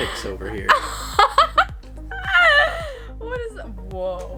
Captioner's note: laughs